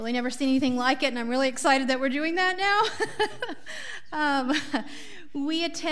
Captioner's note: laughing